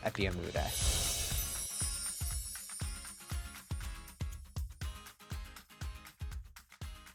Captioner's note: upbeat music; chiming